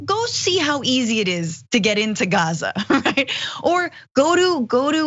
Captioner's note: laugh